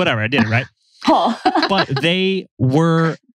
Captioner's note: laughs